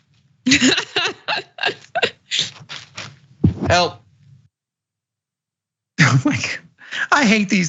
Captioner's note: laugh